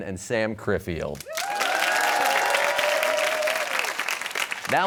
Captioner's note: cheers and applause